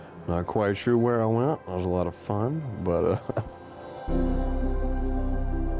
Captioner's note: chuckles